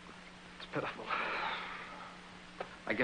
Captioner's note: sighs